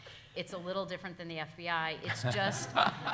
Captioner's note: all laughing